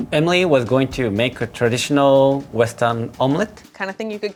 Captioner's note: none